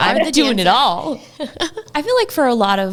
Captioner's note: laughing